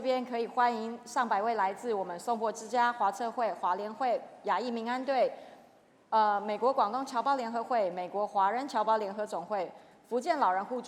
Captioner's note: speaking chinese